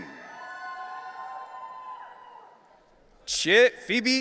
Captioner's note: audience cheering